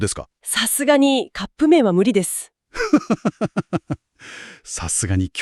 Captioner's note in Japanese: 笑い